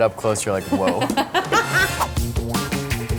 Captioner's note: laughter; upbeat music